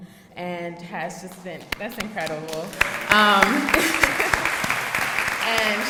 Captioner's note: applauds